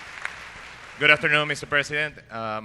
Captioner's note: applause